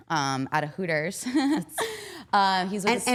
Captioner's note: chuckles